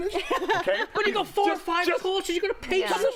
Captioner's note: laughter